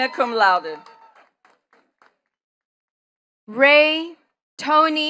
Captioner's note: attendees cheering and clapping